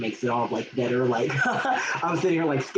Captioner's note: laughing